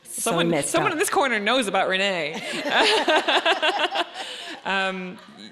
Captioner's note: laughs